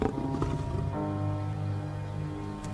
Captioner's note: growls